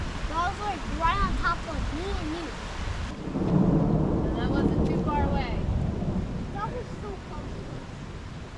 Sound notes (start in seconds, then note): 3.0 thunder Rumbling Louder